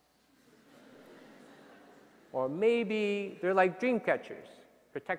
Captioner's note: laughter